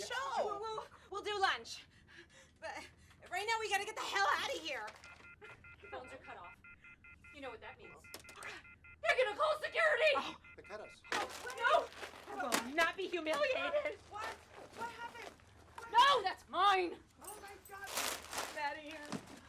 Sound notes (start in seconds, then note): 5.1 busy tone on phone